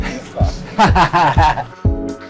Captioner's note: laughs